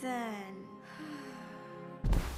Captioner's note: sighing